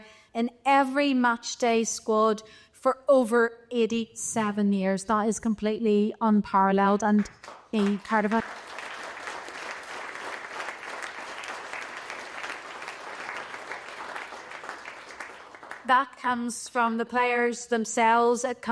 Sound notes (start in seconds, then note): 8.7 applause